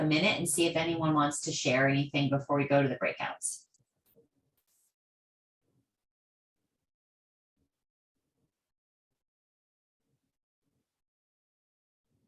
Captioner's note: silence